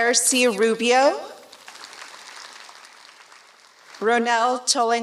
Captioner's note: applause